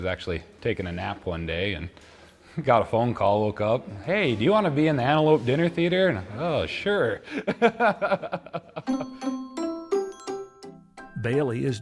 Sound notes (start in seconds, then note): 7.2 laughing; 8.8 whimsical music